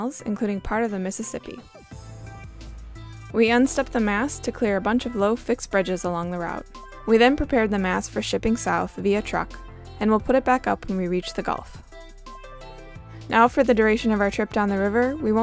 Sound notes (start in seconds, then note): none